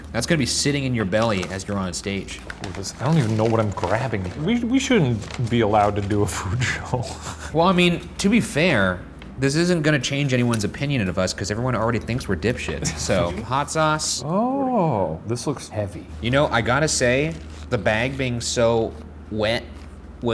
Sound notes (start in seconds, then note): 6.3 laughing